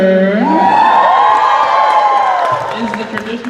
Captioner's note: cheers